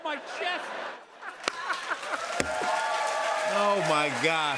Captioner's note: laughter, cheers, applause